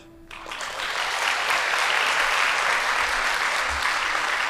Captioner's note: audience applauding